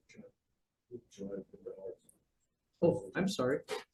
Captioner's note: board member speaks faintly